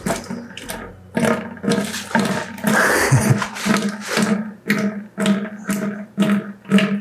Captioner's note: water splattering with heartbeat rhythm